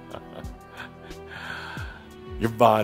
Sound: Adamus chuckles

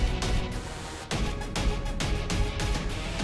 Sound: mouthing

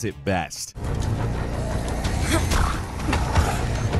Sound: zombie groans; player groans

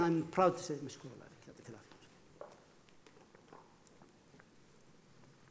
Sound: speaking foreign language

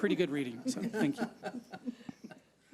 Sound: people laughing

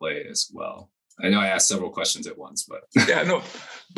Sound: laughs

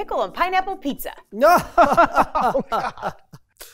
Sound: laughing

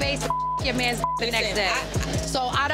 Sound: beep

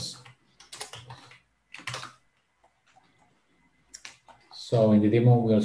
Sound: keyboard clattering

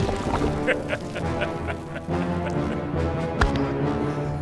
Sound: laughing; tense instrumental music

